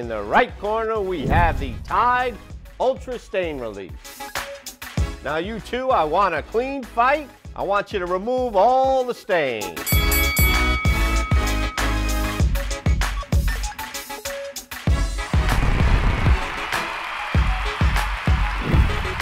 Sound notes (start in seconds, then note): 9.8 bell dinging; 15.9 crowd cheering